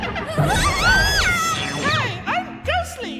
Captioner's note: shrieks